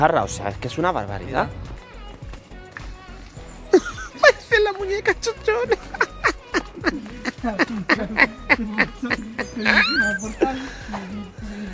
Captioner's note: laughs